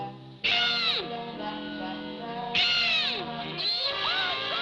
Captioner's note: groaning